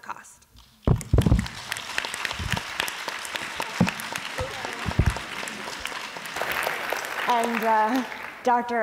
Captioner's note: applause